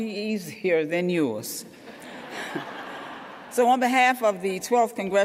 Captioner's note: laughter